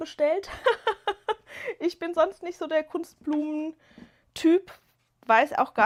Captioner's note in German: gelächter